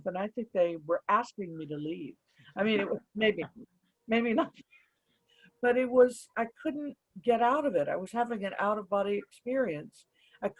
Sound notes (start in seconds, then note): 4.7 sniggering